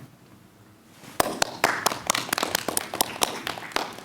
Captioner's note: clapping